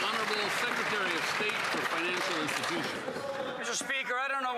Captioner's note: applause